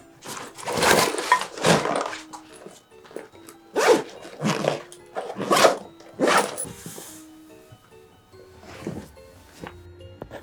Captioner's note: rustling sound; sound of writing